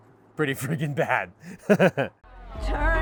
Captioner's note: chuckles